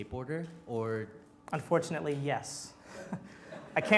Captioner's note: laughs